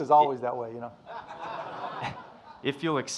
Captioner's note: audience laughing